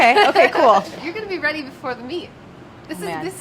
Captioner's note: laughs